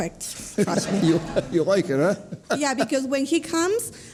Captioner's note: audience laughing